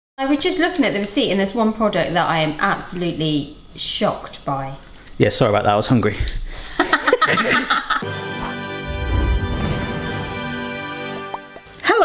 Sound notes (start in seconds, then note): 6.6 both laughing; 8.0 upbeat brass music